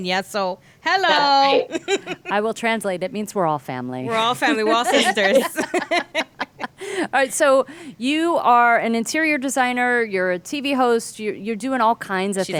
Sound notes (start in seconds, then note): 5.7 laughing